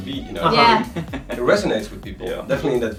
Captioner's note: laughing